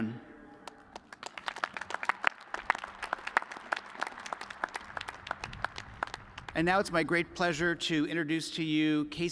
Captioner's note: applause